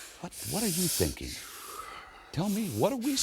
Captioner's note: Randy breathes heavily